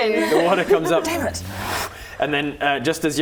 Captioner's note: whoosh